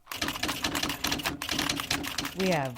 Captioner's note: typewriter keys clacking